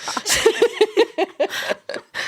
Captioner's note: laughing